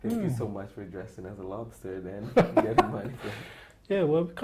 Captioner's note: laughter